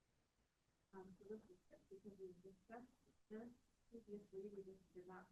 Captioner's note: speaks faintly